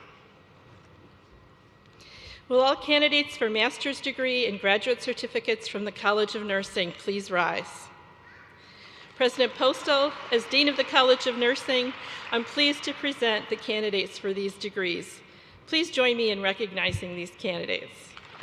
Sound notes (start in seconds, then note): 11.8 applause